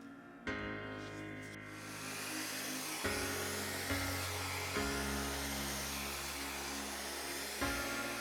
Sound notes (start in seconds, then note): 0.5 pleasant music; 1.7 gadget whirring